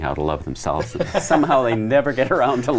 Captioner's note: laughs